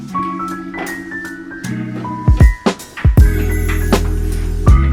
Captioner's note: object clattering